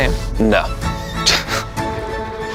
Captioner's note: chuckles